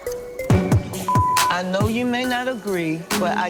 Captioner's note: beep